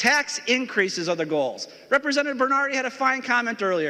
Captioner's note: talking too fast